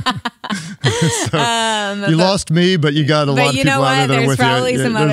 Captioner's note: laughs